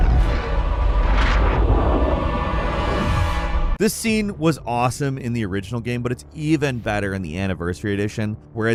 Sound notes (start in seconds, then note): 0.0 air whooshing